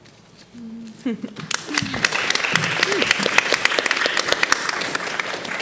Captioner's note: audience applauding